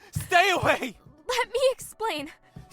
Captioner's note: panicked breathing